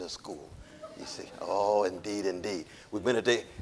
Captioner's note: audience laughing